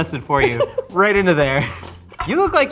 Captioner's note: laughing